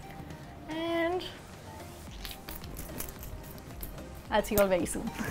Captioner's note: sprays perfume